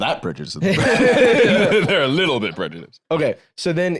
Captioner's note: both laugh